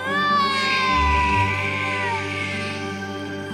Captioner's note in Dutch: huilende baby